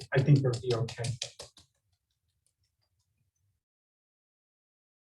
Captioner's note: flour tapping